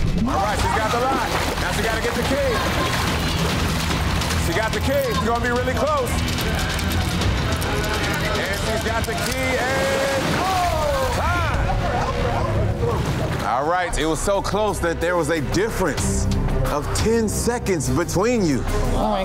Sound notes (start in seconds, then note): 6.8 other contestants shouting; 6.8 urgent music; 11.5 water splashing